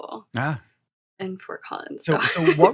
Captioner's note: chuckling